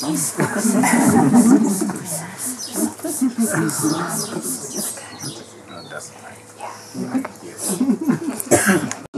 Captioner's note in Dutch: gelach en dankbare woorden